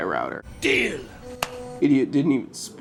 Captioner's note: clap